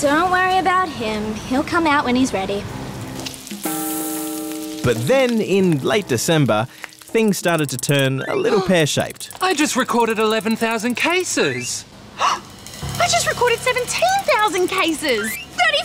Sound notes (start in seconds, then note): 6.6 gasps; 11.3 phone beeps; 12.2 gasps; 14.8 phone beeps